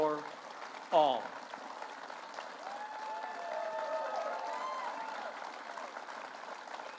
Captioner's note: applause